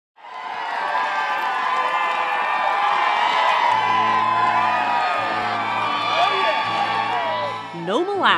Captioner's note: cheering